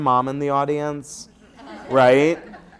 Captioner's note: laughter